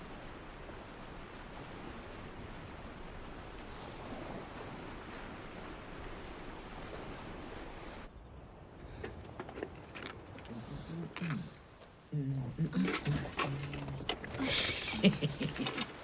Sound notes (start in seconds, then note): 8.9 clattering; 8.9 man humming; 14.4 laughs